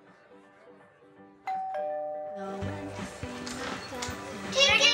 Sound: doorbell rings

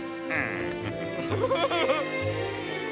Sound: giggling

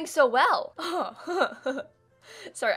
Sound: evil laugh

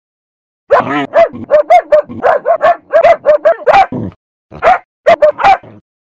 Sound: barking

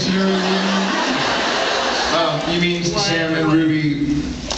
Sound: laughs

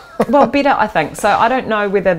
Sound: chuckling

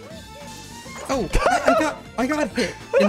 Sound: high pitched laugh

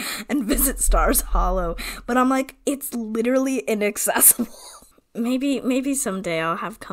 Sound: laughs

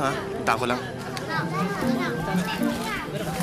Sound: indistinct chattering

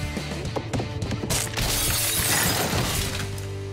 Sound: crashing

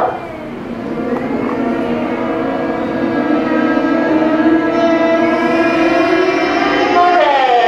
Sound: 模擬蚊子的聲音

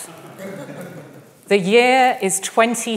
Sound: audience laughing

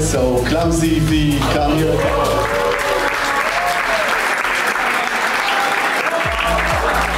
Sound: cheering

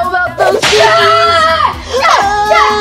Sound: screaming; snap

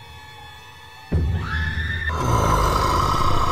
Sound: screaming; growling

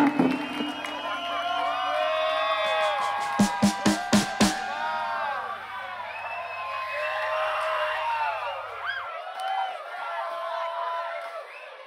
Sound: audience cheers

